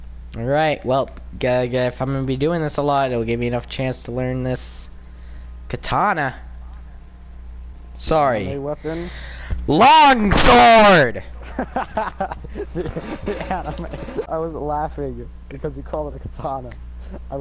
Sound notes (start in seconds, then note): 8.8 inhale